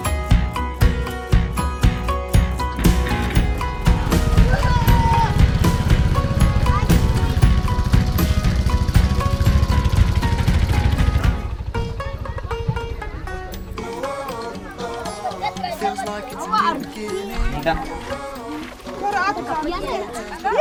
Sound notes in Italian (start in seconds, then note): 3.2 voci in sottofondo; 10.5 musica allegra